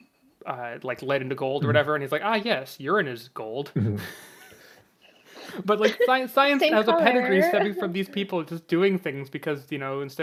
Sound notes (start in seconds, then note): 5.4 laughs